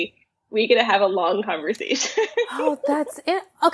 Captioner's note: laughs